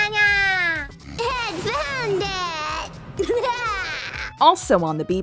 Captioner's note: laughter